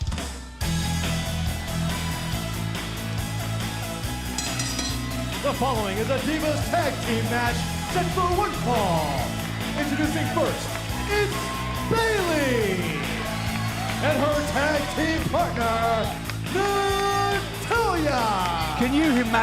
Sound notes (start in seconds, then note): 4.3 bell ringing